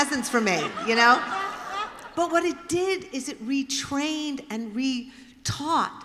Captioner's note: laughter